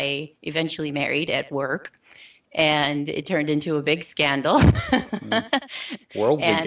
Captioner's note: laughing